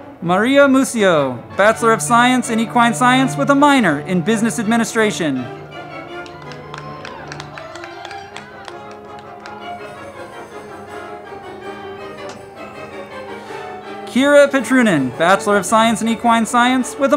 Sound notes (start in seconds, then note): 5.5 crowd clapping; 6.5 band music